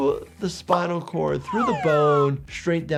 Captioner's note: graphic whooshing